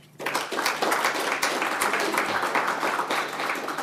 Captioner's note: audience applauds